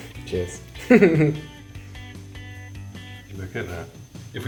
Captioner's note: laughs